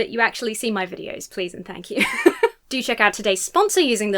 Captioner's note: laughs